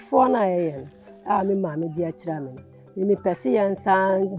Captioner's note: speaking foreign language